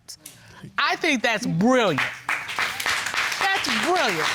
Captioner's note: audience applauding